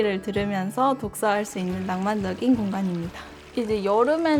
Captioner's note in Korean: 물소리